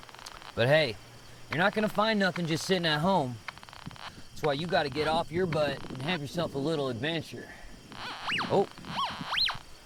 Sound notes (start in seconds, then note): 7.9 metal detector squeals